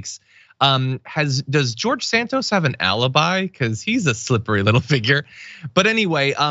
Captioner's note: laugh